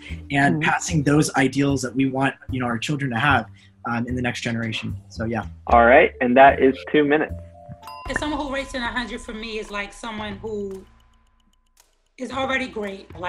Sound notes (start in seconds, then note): 7.4 bell dings